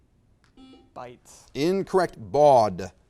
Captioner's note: buzzer beeps